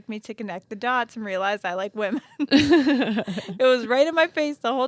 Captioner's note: both laugh